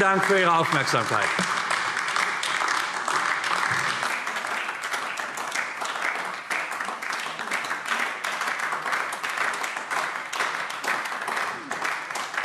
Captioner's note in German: Beifall AfD